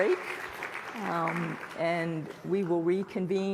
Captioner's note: applause